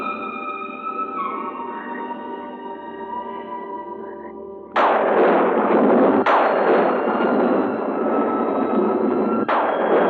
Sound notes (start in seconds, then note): 4.8 thunder crashing